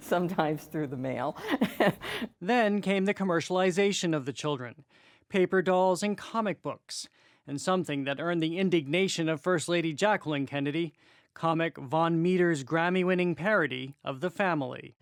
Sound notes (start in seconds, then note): 1.2 laughter